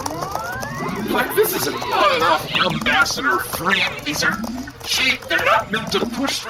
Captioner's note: powering up noise; voice rising with the strain